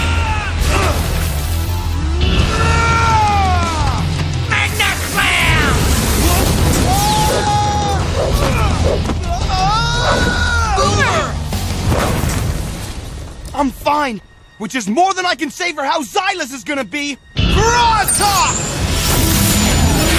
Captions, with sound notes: Which is more than I can say for how Zylus is going to be. Froztok! (roar) Hail Storm! Whoa! Not cool, dude. Drudger! Spykor!